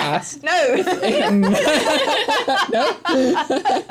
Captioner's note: laughter